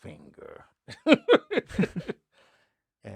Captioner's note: laughing